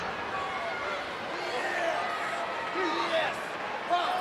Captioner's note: crowd yelling